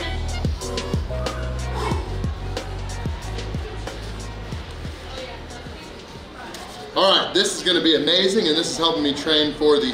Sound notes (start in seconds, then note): 1.8 sighing